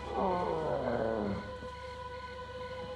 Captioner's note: sleepily